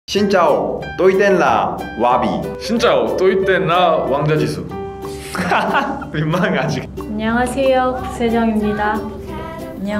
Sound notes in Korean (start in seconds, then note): 5.2 웃음